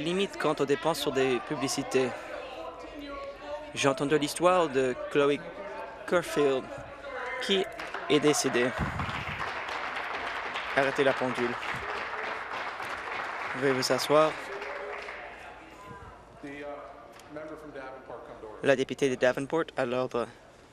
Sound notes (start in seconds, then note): 13.9 applause